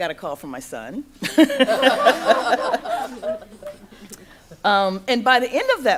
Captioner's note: laughter